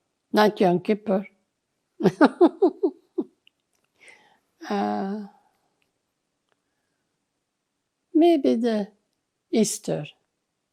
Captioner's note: laughing